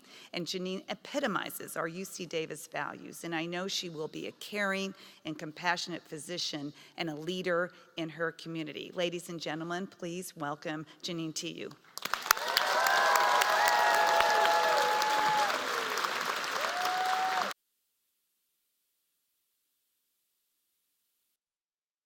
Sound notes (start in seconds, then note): 11.9 applause